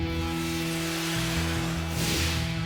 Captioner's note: none